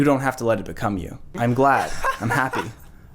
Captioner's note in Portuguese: Palhaço rindo